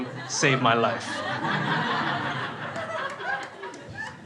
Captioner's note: crowd laughs